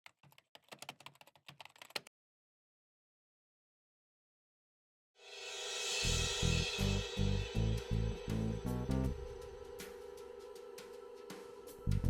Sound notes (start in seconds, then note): 0.0 keyboard clacking; 6.7 mysterious music